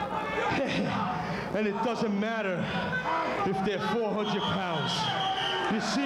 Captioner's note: laugh